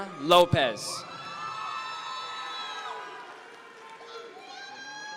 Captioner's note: audience members cheer